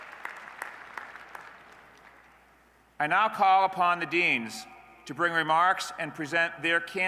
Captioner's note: applause